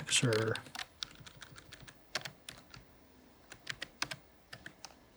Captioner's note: keypads clicking